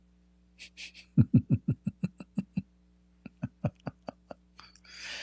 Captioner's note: Ketawa